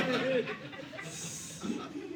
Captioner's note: audience laughing